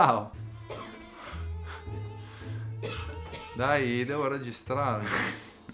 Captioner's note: coughs